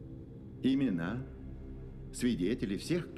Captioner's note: none